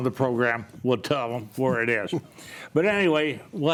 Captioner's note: chuckles